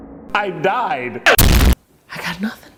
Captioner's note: Jacques explodes loudly